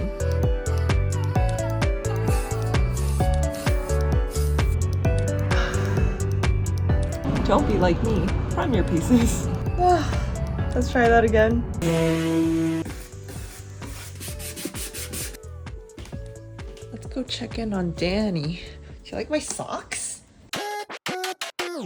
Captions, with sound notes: *Comfy music* Don't be like me. Prime your pieces. *Le sigh* Let's try that again. *Sanding and painting noises* Let’s go check in on Danny. Do you like my socks?